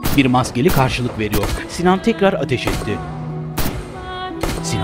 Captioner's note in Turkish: Silah sesleri